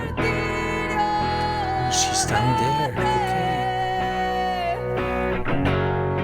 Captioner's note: low voice